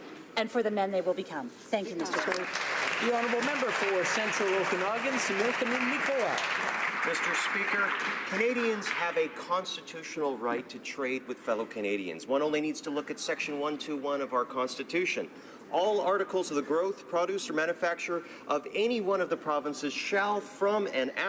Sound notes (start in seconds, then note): 5.5 some Applause